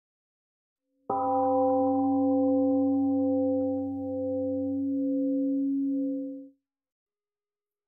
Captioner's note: temple gong rings and fades